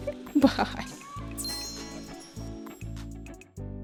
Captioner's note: sims 3 exit chime